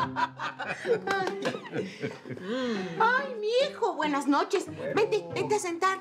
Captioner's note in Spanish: Carcajadas